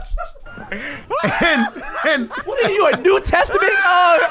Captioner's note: wild laughter